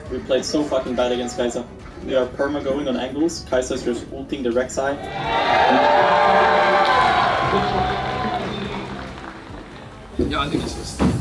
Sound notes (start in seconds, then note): 5.0 crowd cheering